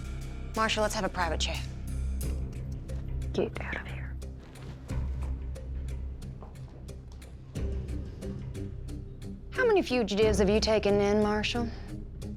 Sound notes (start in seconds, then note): 3.2 whispering